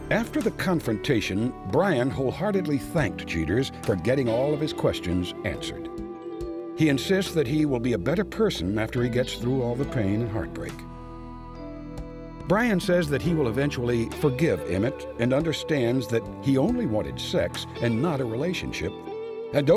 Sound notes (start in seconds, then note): none